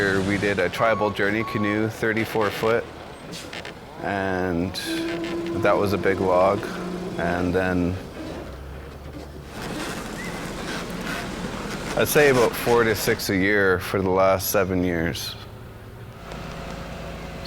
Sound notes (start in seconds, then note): 9.9 vehicle rumbling